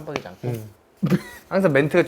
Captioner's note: pff